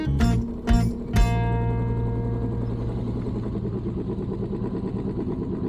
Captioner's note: engine noise